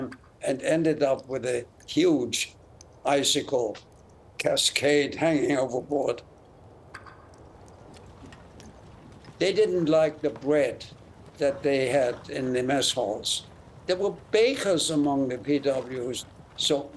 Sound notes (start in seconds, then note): 6.9 hammering sounds; 8.4 horse and wagon sounds